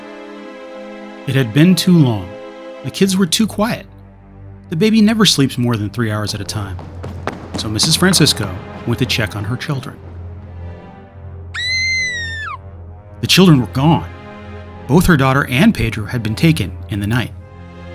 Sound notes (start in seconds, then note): 11.5 screaming